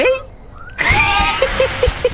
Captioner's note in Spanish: ríe